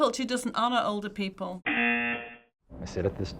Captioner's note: buzzer